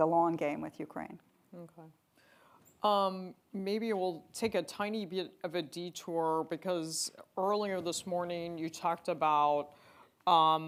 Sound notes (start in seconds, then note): none